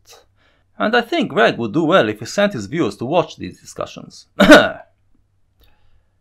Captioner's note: cough